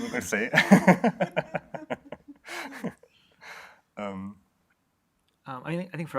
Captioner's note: laughter